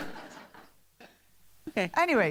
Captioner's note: laughter